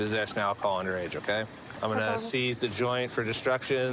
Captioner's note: none